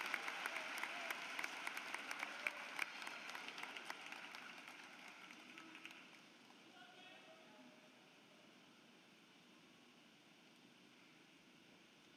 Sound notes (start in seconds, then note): 0.0 applause